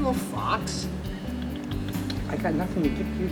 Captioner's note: clicking tongue